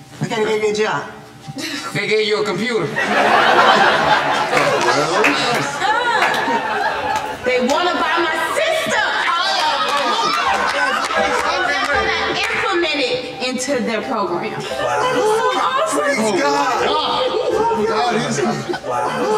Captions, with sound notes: They're going to give you a job? They gave you a computer? No! (Audience laughing) They want to buy my system! And they're going to implement it into their program. That is so awesome! Praise God! God is good!